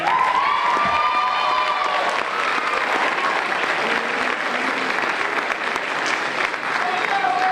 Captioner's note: applause and Cheers